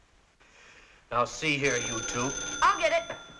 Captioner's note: phone ringing